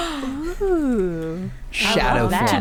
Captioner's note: gasps from everyone